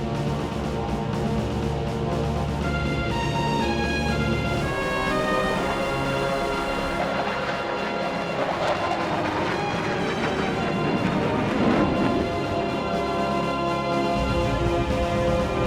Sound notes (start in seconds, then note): 4.8 water cannons spraying; 7.1 aircraft whirring; 13.0 proud music